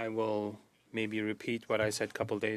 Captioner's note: speaking French